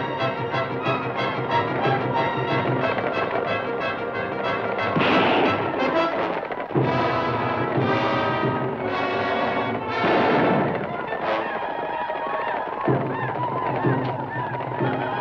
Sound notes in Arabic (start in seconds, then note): 4.7 اطلاق نار; 11.6 الهنود الحمر يعويون